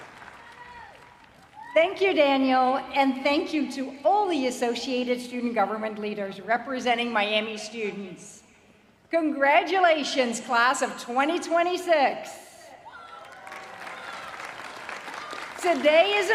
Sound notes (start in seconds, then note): 2.7 applause